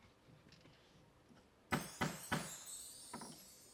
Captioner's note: gavel tapping; mystical music